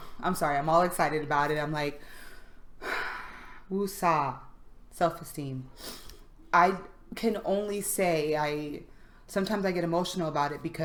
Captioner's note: breathes deeply